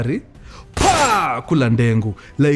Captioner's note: gunshot